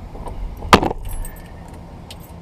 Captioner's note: door closes